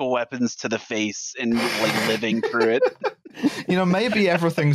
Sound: laughter

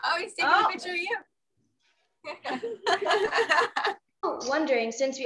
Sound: laughs

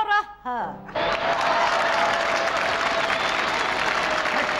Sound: loud applause

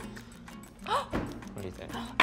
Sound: gasps

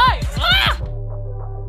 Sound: screams

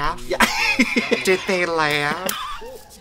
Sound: laughs

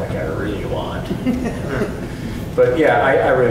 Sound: audience chuckles

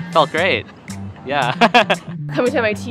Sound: laughs

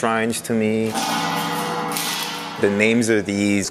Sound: gong clanging

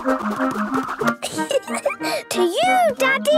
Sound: giggling

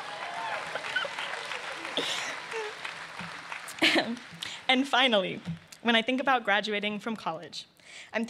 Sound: laughter; cheers and applause

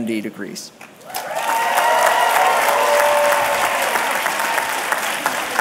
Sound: applause

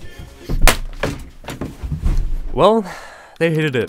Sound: thud

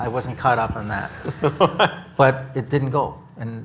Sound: chuckles

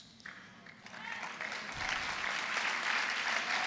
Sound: applause

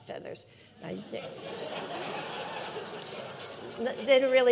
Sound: audience laughing

